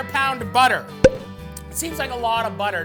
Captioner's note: popping